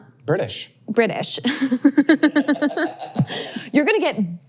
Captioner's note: laughs